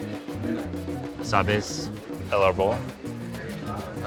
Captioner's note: speaking Spanish